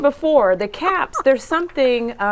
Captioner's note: laughing